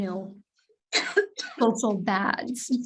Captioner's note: participant coughs